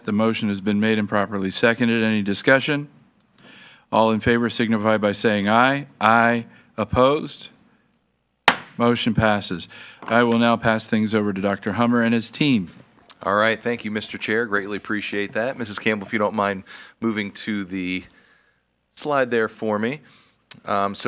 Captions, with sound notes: the motion has been made improperly seconded. Any discussion? All in favor signify by saying aye, aye. Opposed? Motion passes. (gavel bangs) I will now pass things over to Dr. Hummer and his team. - All right, thank you Mr. Chair, greatly appreciate that. Mrs. Campbell, if you don't mind moving to the slide there for me.